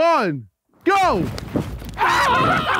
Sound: snow crunching; screaming and laughing

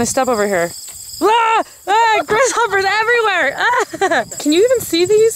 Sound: laughs

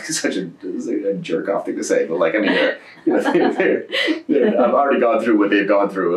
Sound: laughter

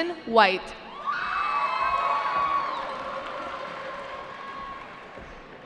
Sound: cheering

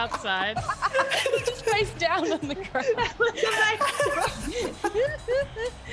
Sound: laugh

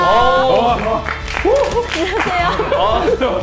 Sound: a rousing cheer

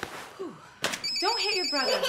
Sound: phone ringing

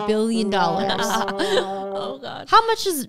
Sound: laughing

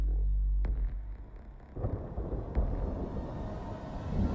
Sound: thunder

